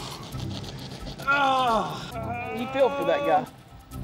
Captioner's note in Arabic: تأوه